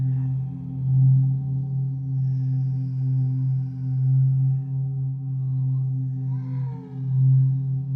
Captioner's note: clones snarling continuing; ominous tone continuing